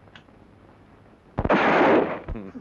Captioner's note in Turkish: Tüfek sesi